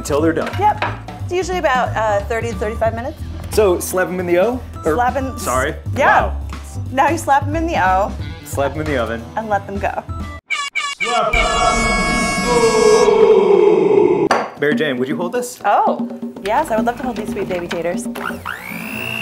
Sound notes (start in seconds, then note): 10.5 air horn